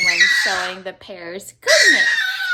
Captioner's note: baby screaming in delight